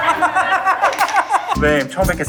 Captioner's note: hand clapperboard